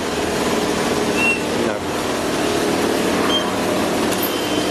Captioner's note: device beeps